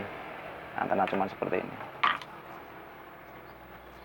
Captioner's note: clap